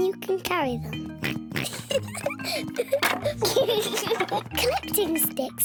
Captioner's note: both giggling